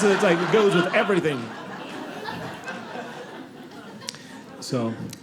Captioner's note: audience laughing